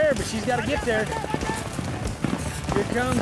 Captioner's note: hoofbeats